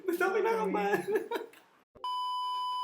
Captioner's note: laughs